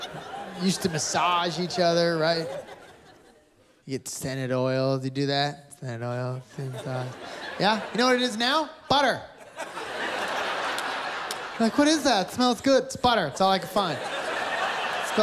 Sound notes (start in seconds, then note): 9.3 laughter